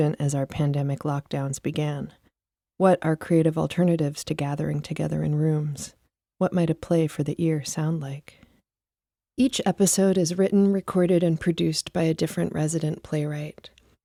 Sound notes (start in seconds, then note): none